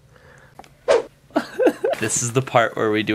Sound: laughter

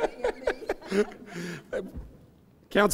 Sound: laughing

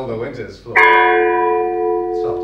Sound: church bell rings

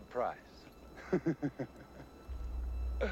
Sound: laughing

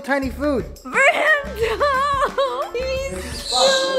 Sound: laughs

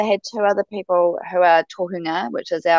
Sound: speaks indigenous language

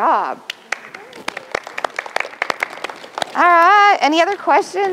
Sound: applause

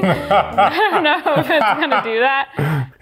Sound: laughing

